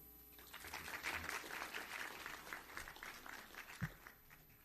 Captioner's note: audience applauds